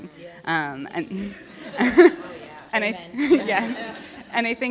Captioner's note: laughter